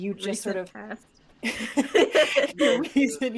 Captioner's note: all laughing